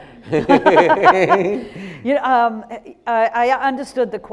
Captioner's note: laughing